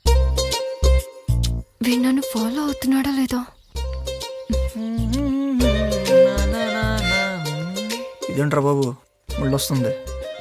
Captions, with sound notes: Is he following me or not? (Humming) Why is she coming to me now?